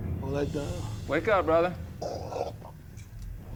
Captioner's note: coughs